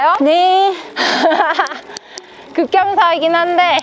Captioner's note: laughter